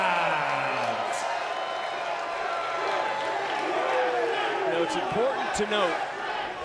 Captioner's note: crowd cheers